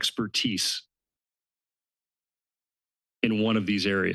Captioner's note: pause